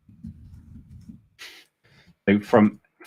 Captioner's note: chuckles